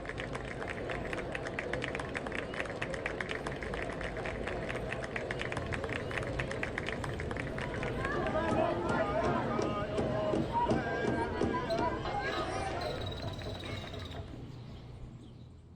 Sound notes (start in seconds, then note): 0.0 applause; 7.9 protest chanting